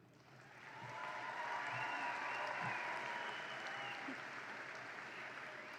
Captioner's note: audience applauds and cheers